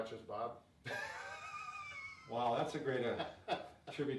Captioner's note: laughter